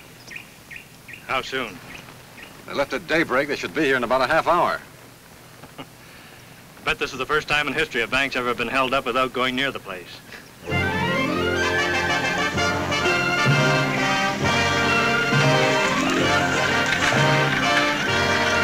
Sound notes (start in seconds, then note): 0.0 bird tweets; 10.7 exciting music